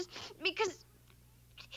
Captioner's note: sobbing